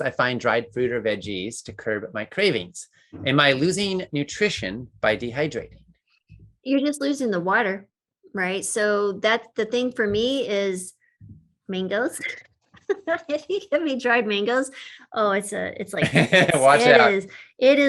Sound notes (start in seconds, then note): 12.9 laughs; 16.0 laughs